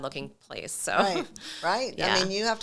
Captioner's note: chuckles